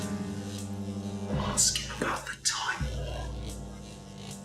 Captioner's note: whispers